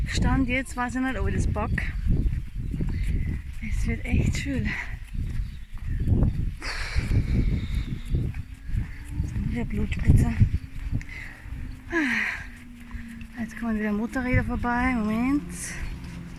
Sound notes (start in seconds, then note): 6.7 sigh